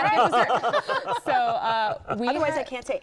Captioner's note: laughter